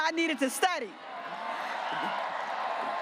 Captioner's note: graduates cheering